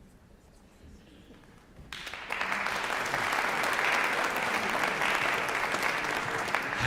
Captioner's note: applause